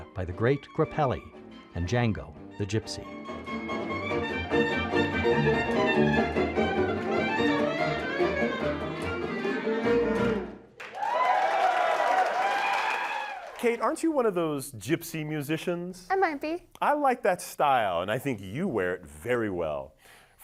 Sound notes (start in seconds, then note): 4.0 lively jazz music; 10.7 audience cheering